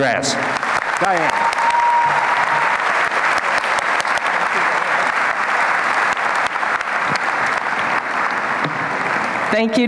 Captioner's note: applause